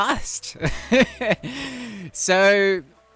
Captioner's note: laughs